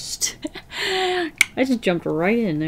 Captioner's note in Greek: Γέλια, ήχος με το στόμα